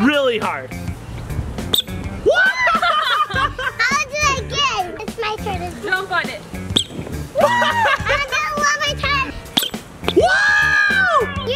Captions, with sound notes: - Really hard! (toy squeaks) - Whoaaa! (laughter) - I wanna do it again! It's my turn, it's my turn. - Jump on it. (toy squeaks) (cheers and laughter) - I wanna do it one more time! (toy squeaks) (cheers and laughter)